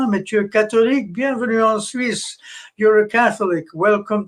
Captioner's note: speaking french